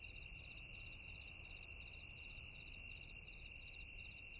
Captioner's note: crickets chirping